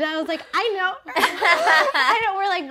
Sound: laughing

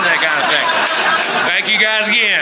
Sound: audience Laughter and applause

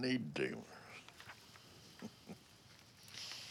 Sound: chuckles

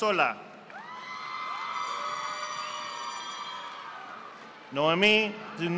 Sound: audience applauding

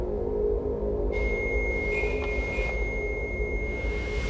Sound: beeping

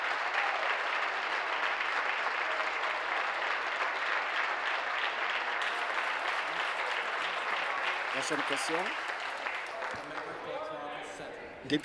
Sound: applause

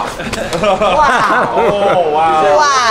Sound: laughs

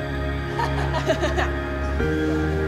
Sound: laughs

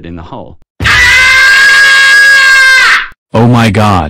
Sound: screaming

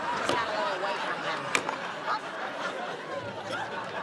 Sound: laughter

